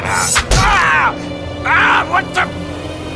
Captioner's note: screams in pain